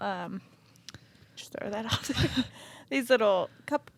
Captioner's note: both chuckling